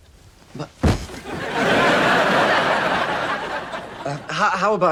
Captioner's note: audience laughs